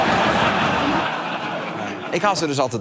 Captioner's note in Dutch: gelach